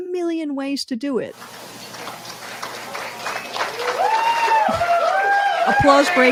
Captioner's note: applause and cheering from the crowd